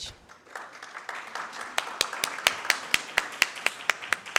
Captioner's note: audience claps